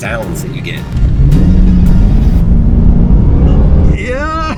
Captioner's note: car engine revving